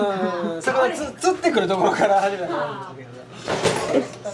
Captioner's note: laughs